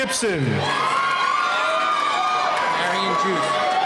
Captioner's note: cheering